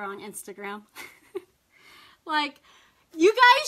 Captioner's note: laughs